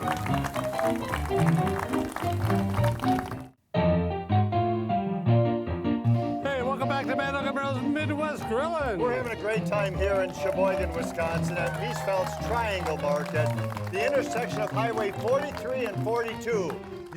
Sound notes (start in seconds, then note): 11.4 crowd cheering